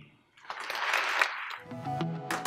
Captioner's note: applause